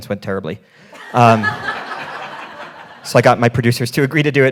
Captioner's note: all laughing